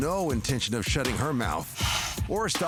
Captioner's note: blows nose